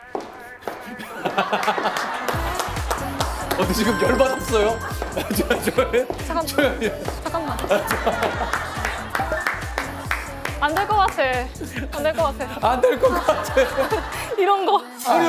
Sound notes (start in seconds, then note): 9.2 laughing to death